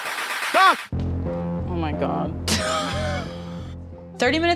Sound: chuckles

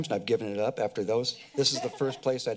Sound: laughter

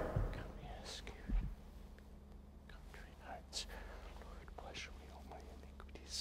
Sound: whispering

